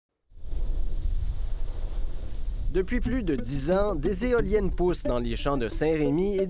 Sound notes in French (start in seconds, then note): 0.4 souffle du vent